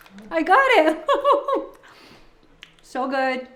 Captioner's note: laughing